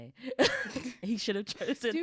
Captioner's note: chuckles